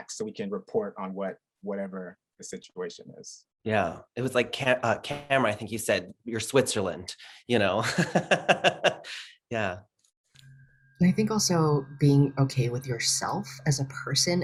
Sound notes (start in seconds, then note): 7.6 laughing